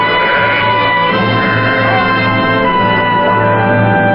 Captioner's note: man calling to sheep